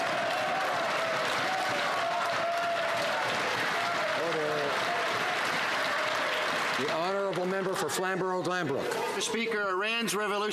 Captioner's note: some Applause